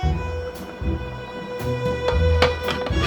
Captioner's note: liquid simmering